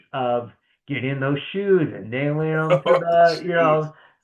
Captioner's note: laughing